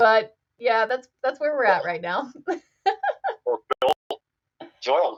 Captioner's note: laughs